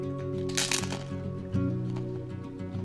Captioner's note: Crunch